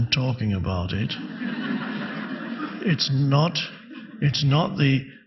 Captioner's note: audience laughing